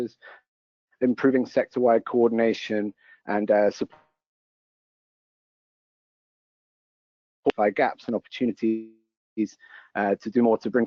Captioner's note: audio cuts out